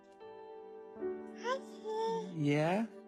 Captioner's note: baby cooing